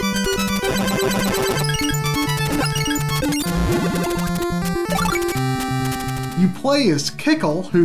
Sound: game audio

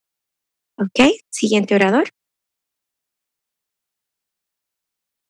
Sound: speaking foreign language

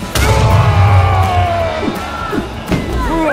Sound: screaming

